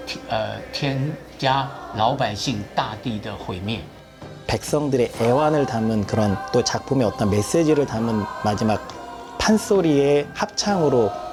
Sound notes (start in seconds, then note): 4.4 speaking in Korean